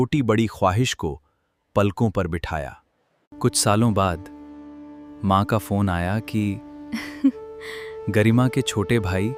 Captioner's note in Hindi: हंसी